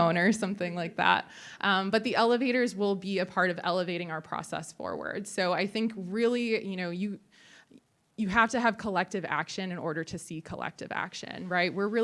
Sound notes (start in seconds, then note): none